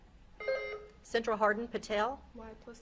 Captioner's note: beep buzzing